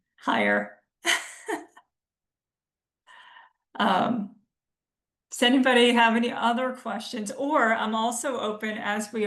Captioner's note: laughs